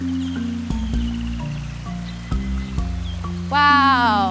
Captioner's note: light vibraphone music; water flowing